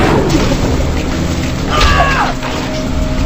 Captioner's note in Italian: urla